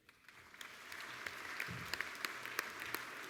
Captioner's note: applause